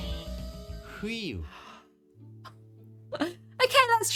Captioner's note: silence